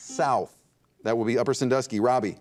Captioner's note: buzzer dings